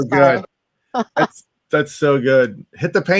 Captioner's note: laughs